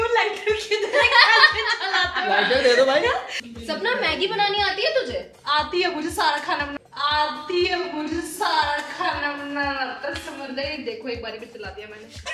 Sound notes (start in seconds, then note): 0.8 laughing